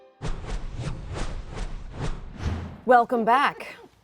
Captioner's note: panels swooshing